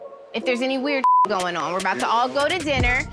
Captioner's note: beep